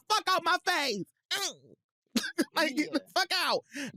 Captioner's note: grunts